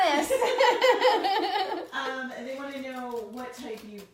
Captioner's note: laughing